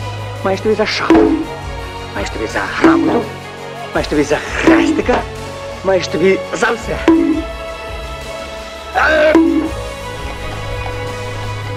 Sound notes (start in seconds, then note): 9.1 bonk